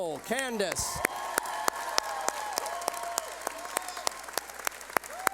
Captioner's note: cheering